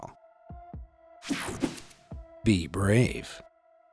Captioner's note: air whooshing